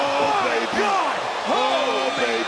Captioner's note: people yelling; audience gasping